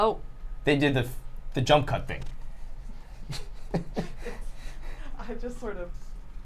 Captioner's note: laughs